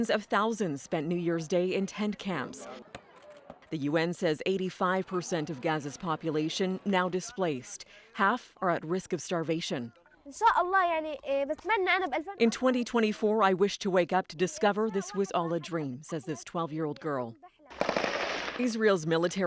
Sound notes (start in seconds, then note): 14.7 speaking alternate language